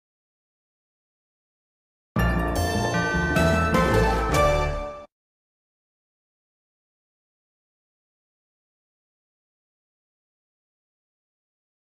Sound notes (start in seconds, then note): 2.2 upbeat orchestral music; 5.4 silence